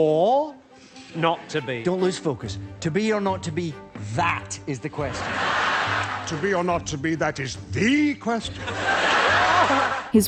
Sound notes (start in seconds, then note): 5.1 laughter; 8.6 more audience laughter